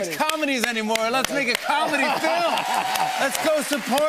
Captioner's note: laughs; cheers and applause